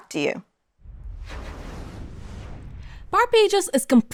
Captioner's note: graphic whooshing